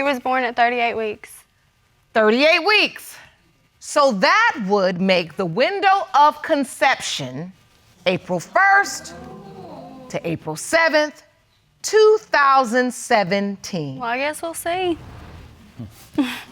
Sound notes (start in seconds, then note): 8.4 audience exclaiming